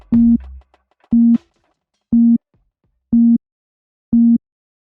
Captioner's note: electronic beeping